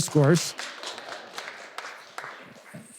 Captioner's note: audience applause